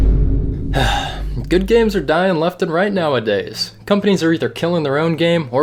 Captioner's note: bruh, vine drum effect; sigh